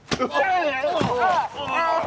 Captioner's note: groans